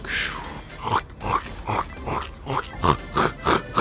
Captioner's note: skating mouth sounds; fast skating mouth sounds